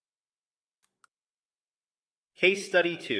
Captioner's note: pause